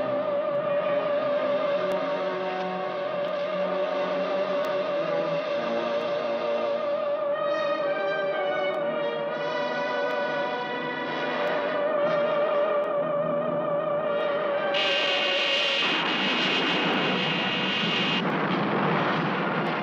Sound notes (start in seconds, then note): 14.7 laser blasting